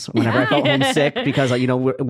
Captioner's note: laughing